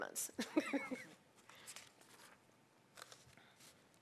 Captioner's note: laughing